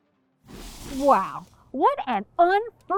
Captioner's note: transition whooshes